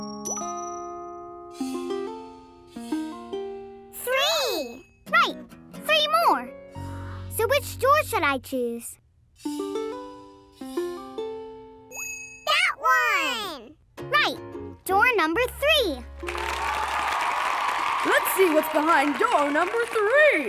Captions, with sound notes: Three! Right, three more! So which door should I choose? That one! Right, door number three. [cheering] Let's see what's behind door number three!